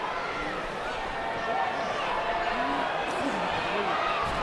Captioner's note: crowd chattering